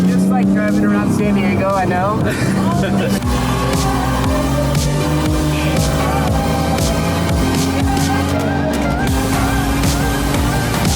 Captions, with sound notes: - Just like drivin' around San Diego, I know. (upbeat music) (car engine revving)